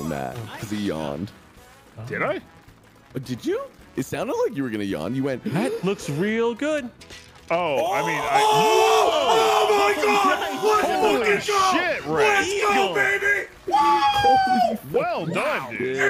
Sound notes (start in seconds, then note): 6.3 inhales; 7.6 screams